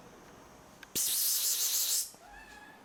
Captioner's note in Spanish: Sonido de seseo parar llamar a los gatos